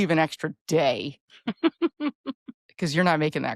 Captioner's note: laughing